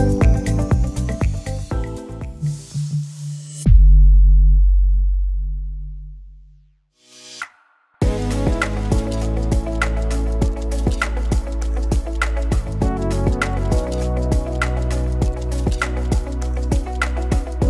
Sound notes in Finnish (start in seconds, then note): 0.2 Musiikki vaimenee; 2.4 Ääniefekti; 11.2 Rauhallista musiikkia